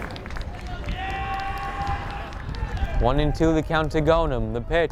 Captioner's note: fan yells